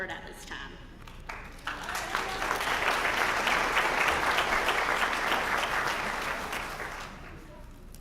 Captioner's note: applause